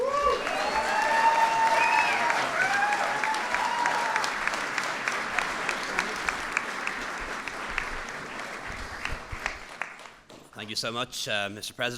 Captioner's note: applause